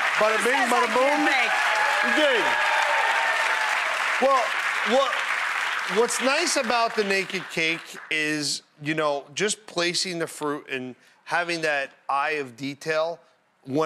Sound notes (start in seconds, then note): 2.9 audience applauding